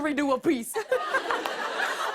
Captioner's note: laughter